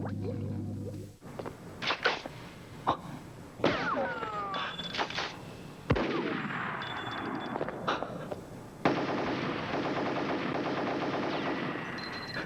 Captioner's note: reload sound; sounds of shots